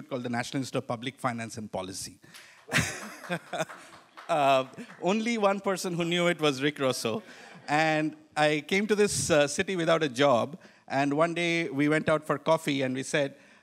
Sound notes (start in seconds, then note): 2.4 one audience member applauding; 2.7 laughs